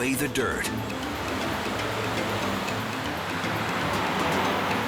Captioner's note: rain hammers